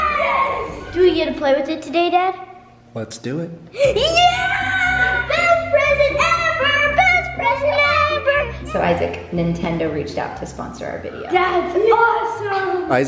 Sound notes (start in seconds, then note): 4.0 cheers